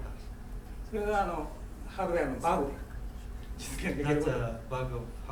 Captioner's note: speaking in foreign language